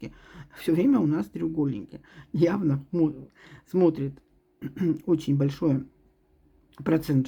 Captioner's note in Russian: откашливается